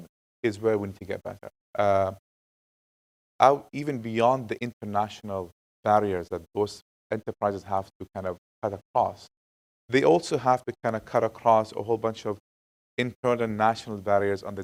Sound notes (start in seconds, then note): none